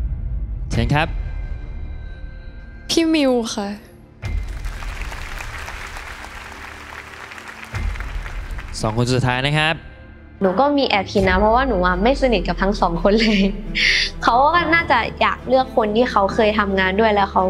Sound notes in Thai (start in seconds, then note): 4.4 ปรบมือ